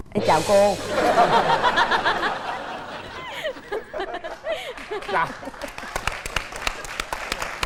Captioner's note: laughing